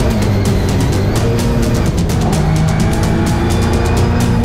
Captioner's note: engine revs